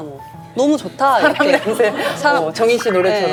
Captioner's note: laughs